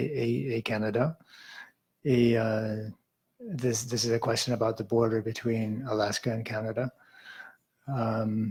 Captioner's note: speaking in French